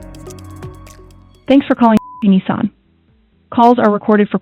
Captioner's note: beep